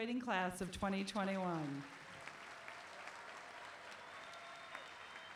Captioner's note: applause